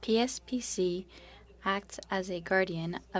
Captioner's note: speaking French